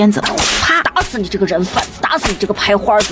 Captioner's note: crack!